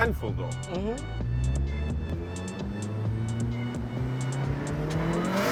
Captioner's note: engine revving